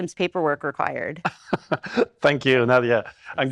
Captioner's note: laughing